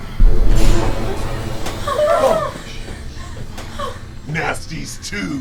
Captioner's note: whimpering